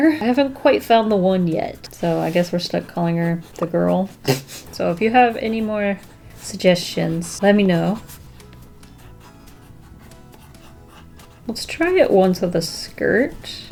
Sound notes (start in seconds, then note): 2.4 laughs